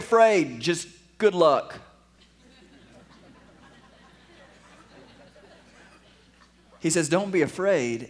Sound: laughter

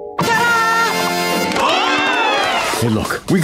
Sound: applause

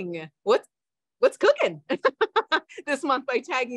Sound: laughs

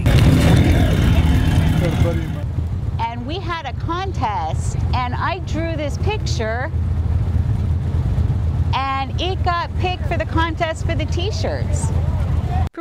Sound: nat sound of bike

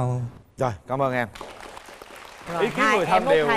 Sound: applause

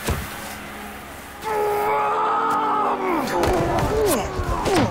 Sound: Leopold Roars

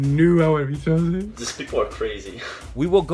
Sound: chuckles

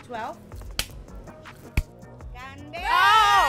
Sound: claps

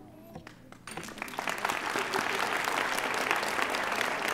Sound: audience applauding

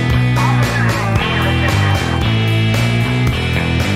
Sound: police Radio - "Officer is in need of assistance"

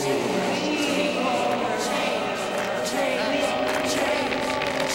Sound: all chanting

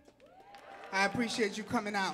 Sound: audience clapping and cheering

